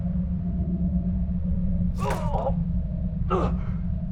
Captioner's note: groans